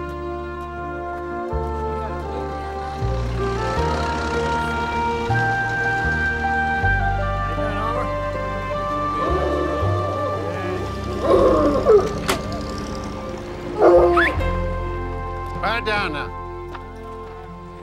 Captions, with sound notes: (overlapping chatter) (dogs baying) (man whistles) Pipe down, now!